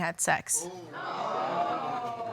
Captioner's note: audience exclaiming